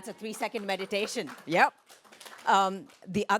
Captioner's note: clapping